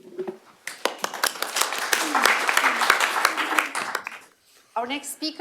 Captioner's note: applause